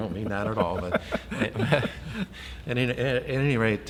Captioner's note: both laughing